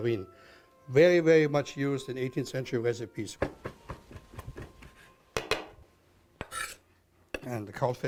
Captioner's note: chopping